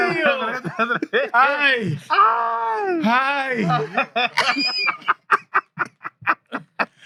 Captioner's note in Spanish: Hablando en idioma extranjero; Riendo; Hablando en idioma extranjero